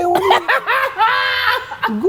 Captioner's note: laughs